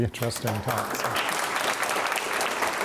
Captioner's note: audience applauds